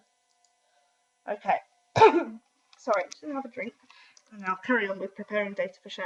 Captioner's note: coughs